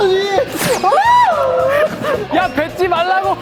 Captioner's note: missing it while laughing